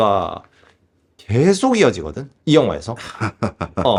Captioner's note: laughs